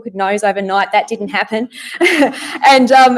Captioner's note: laughs